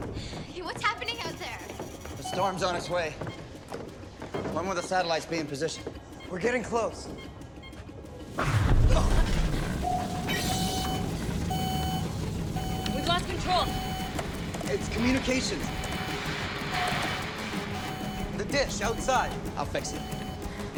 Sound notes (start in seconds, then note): 8.8 booms; 8.8 building creaks; 10.7 alarm blaring